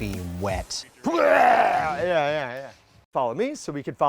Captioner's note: vomiting sound